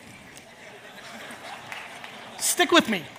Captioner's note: audience laughs